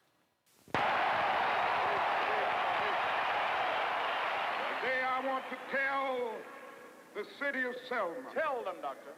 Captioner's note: cheers and applause